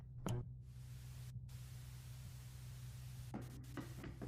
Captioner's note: TV static buzzing